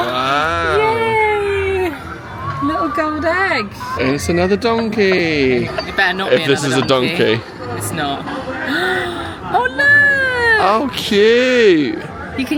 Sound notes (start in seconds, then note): 2.2 gasping; 8.5 gasping